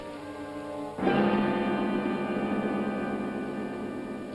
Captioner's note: starting tone